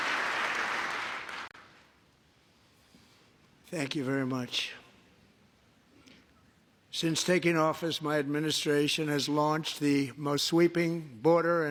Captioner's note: appuse; applause